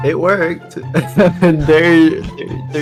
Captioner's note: laughing